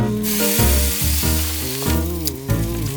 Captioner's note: sizzles